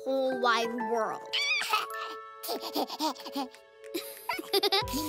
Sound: giggles

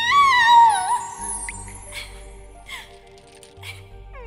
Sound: Yukina Sobbing

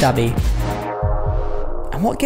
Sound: heartbeat

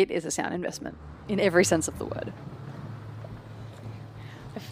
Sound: transport sounds

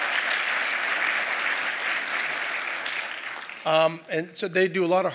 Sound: applause

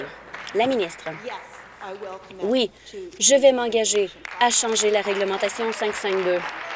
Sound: applause

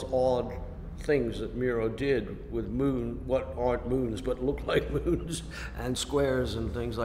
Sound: laughs

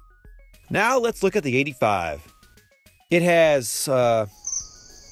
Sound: crickets

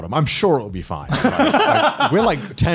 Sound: laughs

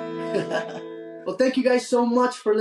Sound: laughs

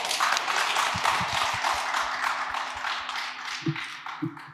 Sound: audience applauds

